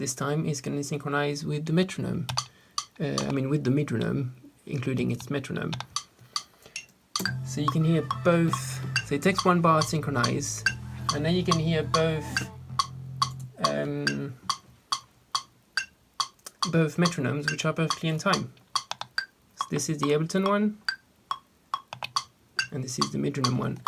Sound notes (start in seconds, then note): 7.1 metronomes